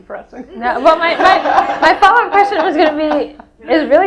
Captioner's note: audience laughs